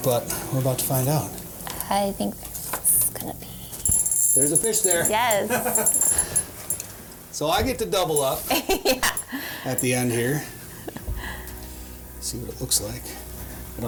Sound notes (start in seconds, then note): 7.3 laughs